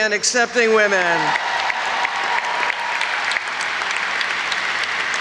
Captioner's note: audience applauds